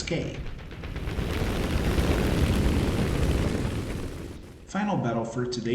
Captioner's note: aircraft Engines ,Gunfire, Flying Sounds